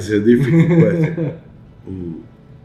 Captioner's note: laughs